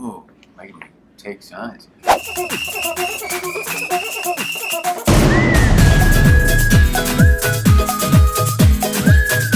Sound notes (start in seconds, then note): 2.1 whistling and clapping; 4.8 upbeat electronic music